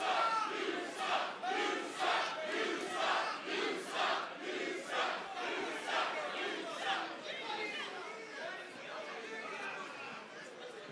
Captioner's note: fans chanting